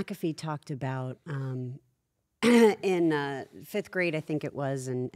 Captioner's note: cough